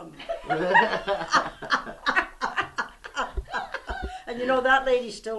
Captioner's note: laughter